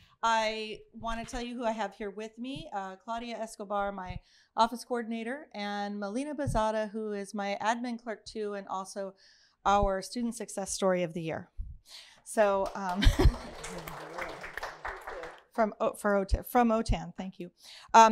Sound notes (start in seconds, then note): 12.4 applause